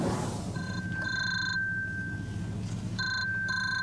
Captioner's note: phone ringing